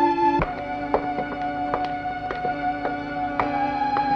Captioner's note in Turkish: Ayak sesleri